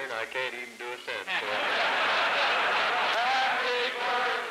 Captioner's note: applause and laughter